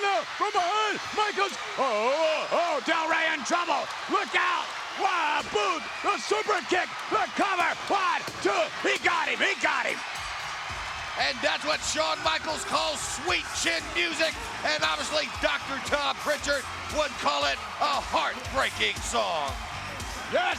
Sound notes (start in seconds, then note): 10.2 bell rings; 10.2 upbeat music